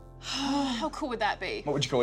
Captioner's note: both sigh